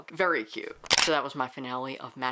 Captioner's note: camera shutter